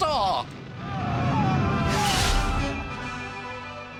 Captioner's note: screams